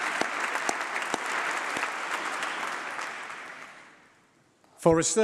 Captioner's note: applause